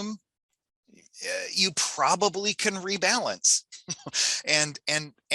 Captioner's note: laughs